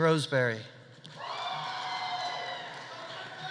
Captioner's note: audience cheering; audience applauding